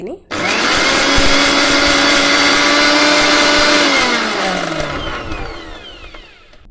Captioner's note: mixer Sound